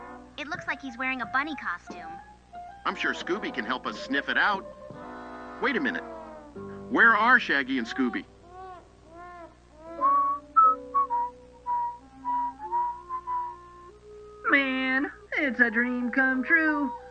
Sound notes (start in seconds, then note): 9.9 whistling